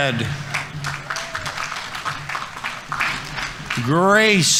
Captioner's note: audience applauding